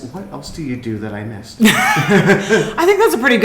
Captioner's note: laughing